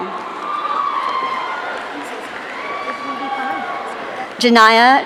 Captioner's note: audience cheering